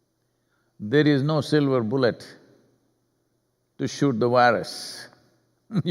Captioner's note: laughs